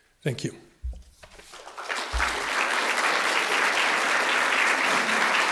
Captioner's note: applause